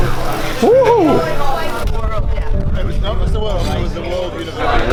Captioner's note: people chattering